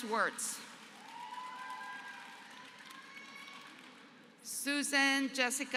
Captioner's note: applause